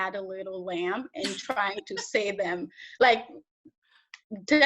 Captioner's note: interviewer laughs